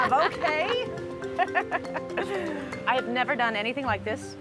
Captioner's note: both laugh